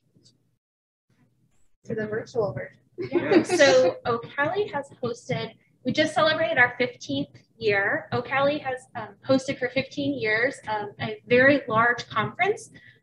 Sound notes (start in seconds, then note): 3.0 group laughing